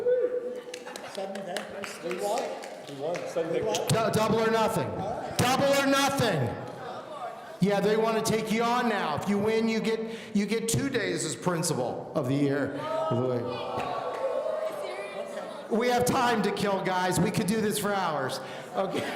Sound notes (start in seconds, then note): 13.0 audience gasping